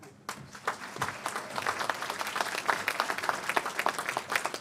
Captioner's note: applause